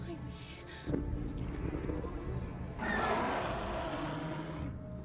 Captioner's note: roaring